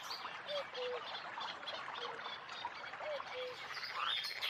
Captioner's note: cuckoo croaking